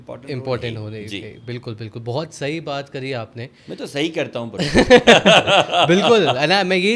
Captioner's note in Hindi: हंसी